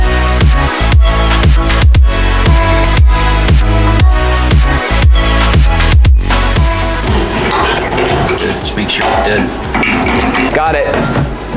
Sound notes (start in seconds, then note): 7.0 twing pang twang